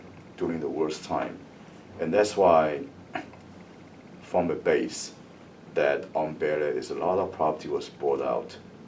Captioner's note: coughs